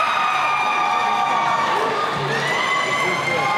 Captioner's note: cheering